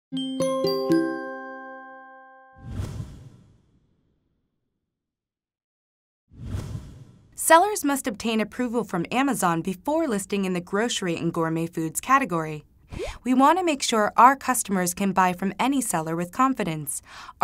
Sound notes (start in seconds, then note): 0.1 tinkling music; 2.6 swishing